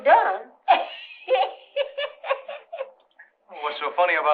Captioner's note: laughing